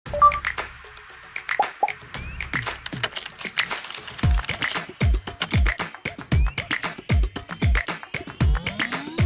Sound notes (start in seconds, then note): 1.5 upbeat music; 3.2 keyboard typing